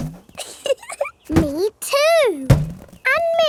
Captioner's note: chuckles